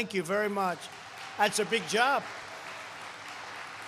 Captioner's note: applause